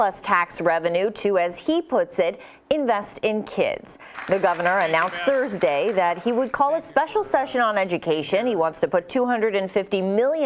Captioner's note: applause